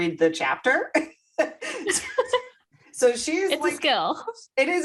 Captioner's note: laughter